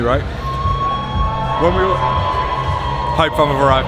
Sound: crowd cheers

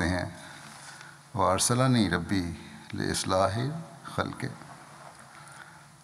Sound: Arabic

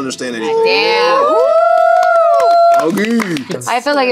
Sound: cheering

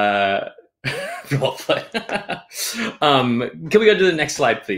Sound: laughs

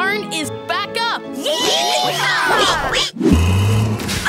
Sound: cheering

